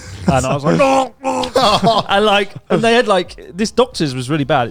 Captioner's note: laughs; wailing